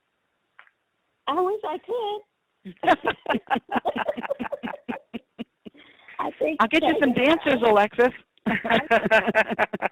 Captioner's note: laughter